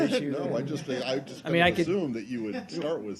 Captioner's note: laughter